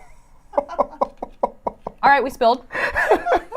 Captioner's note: people laughing